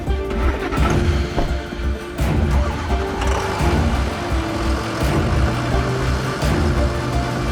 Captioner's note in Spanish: Ruido de los vehículos